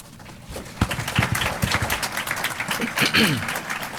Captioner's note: applause